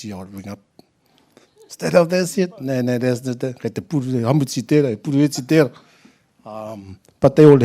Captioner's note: laughter